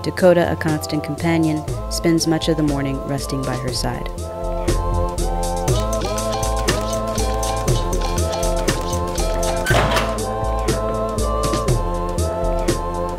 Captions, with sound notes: Dakota, a constant companion, spends much of the morning resting by her side. (door opening)